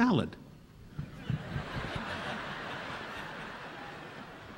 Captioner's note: audience laughing